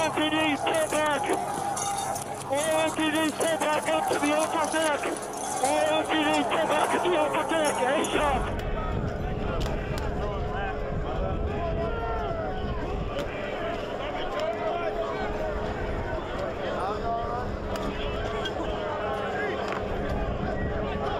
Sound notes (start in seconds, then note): 11.3 crowd yelling